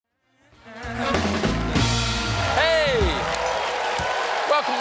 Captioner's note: applause